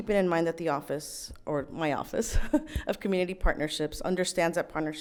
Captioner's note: laughs